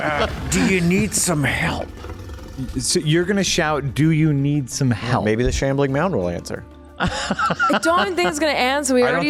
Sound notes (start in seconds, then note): 7.0 laughs